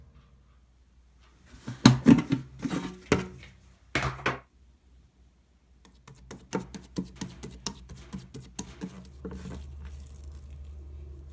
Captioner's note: folding